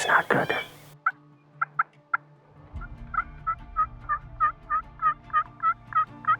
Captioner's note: turkey calling